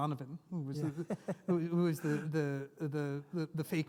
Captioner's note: laughs